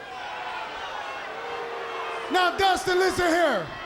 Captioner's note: crowd cheering